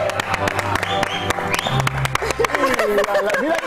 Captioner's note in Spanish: aplausos